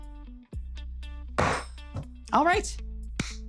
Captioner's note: pan thudding; hands clapping